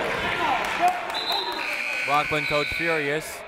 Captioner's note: whistle; buzzer